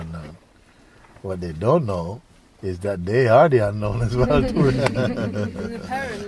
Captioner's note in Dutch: gelach